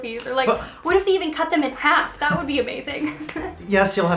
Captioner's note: laughs